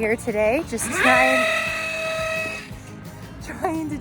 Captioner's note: machine buzzing